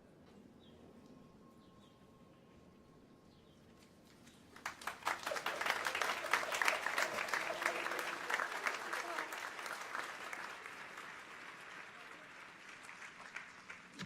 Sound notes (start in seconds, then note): 5.3 audience applauds